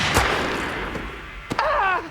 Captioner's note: fires gun; groaning in pain